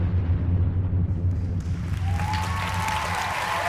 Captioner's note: applause